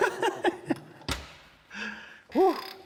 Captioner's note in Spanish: Risas